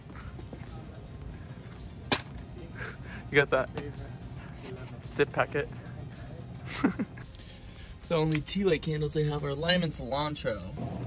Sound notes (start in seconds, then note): 2.0 smash; 6.6 laughs